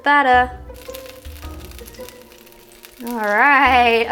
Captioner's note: sizzling butter in pan